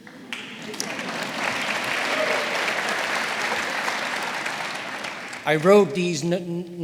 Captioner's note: audience applauding; audience cheering; audience laughing